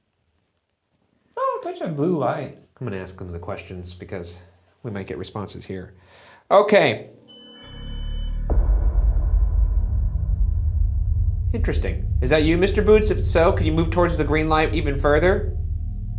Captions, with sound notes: Oh, touch the blue light. - I'm gonna ask them the questions because we might get responses here. Okay. (Boo-subi beeps) Interesting. Is that you, Mr. Boots? If so, could you move towards the green light even further?